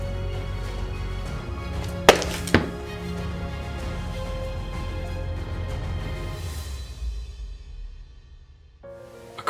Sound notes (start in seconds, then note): 1.8 popping stomp and firm thump